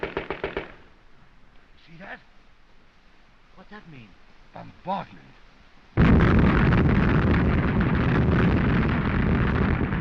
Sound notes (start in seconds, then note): 5.9 continuous explosions